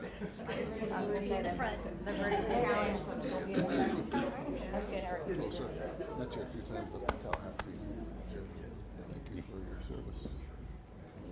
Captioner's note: applause